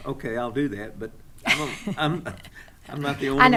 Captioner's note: stammers; laughing